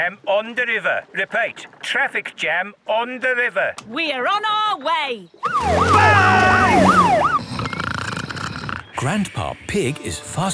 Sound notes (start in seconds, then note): 5.4 siren wailing; 7.4 snoring